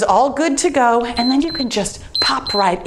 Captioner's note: timer beeps